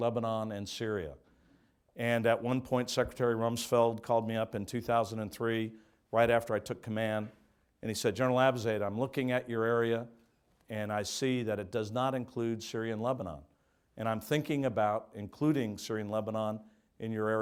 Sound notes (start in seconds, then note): none